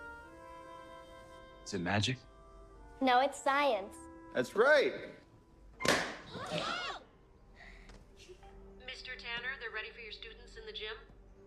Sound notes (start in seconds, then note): 5.8 popping; 7.5 all gasping